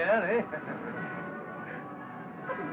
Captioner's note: faint Rumbling